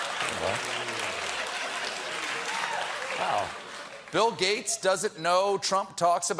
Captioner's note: applause; laughter